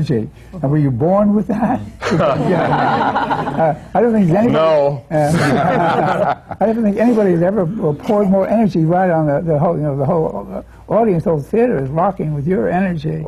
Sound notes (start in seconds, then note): 2.0 laughter; 5.3 laughter